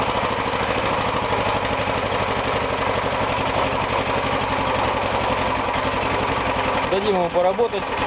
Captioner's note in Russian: слышен шум работы двигателя